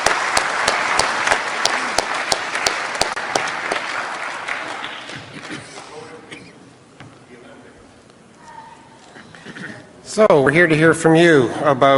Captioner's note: applause